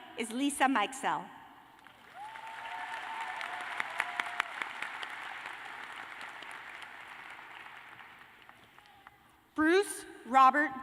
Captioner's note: cheers and applause